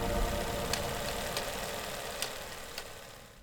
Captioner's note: horse clacking